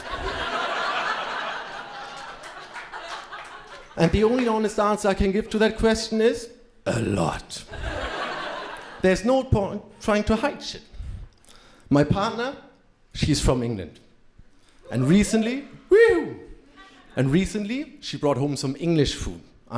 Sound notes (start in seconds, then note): 0.0 crowd laughing; 7.6 crowd laughing